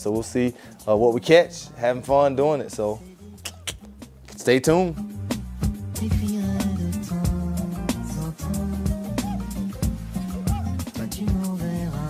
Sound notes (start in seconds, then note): 3.4 clicks tongue; 6.1 smooth Latin music